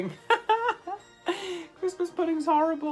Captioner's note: laughing